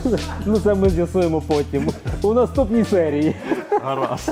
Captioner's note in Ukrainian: сміх